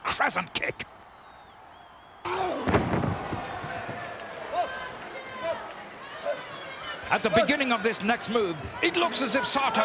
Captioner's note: applause